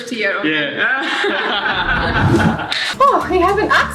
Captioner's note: all laughing